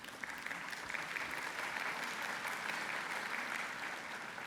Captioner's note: applause